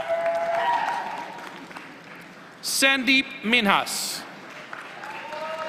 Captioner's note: applause; applause